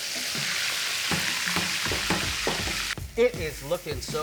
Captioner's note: oil sizzling; hitting table